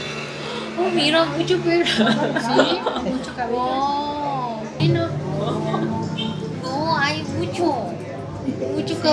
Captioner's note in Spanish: risas